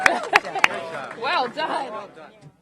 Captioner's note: applause